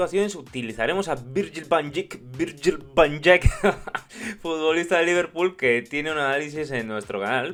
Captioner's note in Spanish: risas jaja